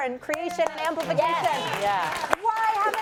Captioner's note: applause